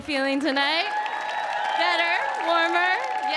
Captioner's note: audience cheering